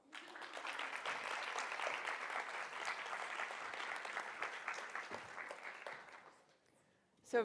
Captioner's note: applause